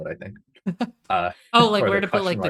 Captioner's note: chuckles